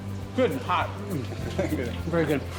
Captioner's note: laughs